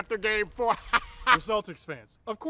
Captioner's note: elite troll laughter